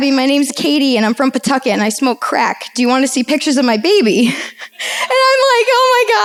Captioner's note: laughs